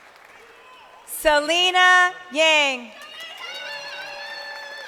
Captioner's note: crowd cheering